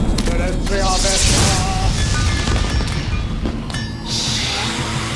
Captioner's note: speaking foreign language